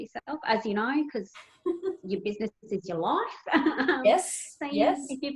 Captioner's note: chuckles